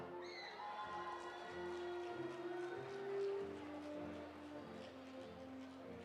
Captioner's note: audience applauding; audience cheering